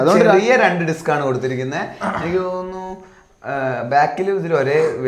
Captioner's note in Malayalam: തൊണ്ട ശരിയാക്കുന്നു